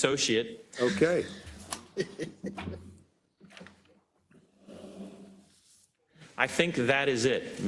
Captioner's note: laugh